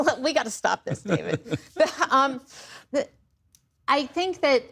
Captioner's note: laughter